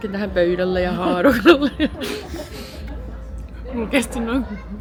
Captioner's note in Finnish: naurua